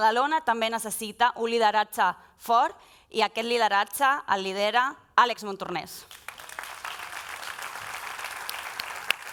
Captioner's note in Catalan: aplaudiments